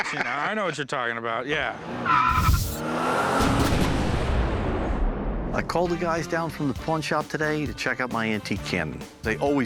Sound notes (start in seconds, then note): 1.5 screeching tires; 3.8 revving engine